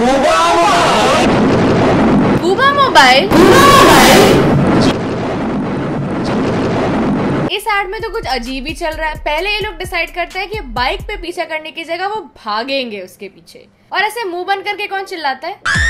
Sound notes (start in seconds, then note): 4.7 more thunder. hope your volumes are low